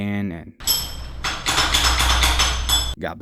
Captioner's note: metallic sound